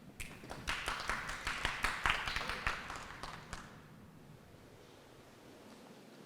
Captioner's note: applause